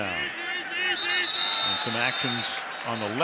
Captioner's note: whistle blows